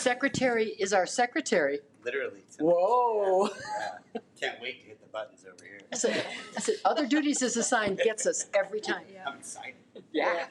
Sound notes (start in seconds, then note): 3.8 laughs